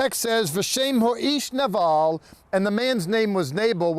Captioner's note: speaking in Hebrew